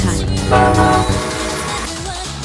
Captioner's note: honk